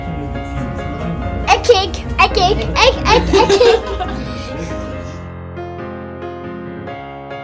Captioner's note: laugh; background music